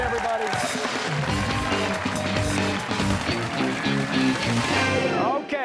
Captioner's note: cheers and applause